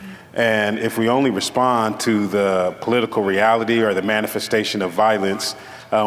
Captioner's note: none